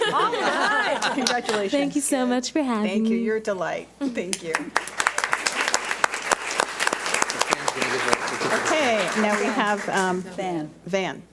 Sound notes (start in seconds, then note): 4.5 audience applauds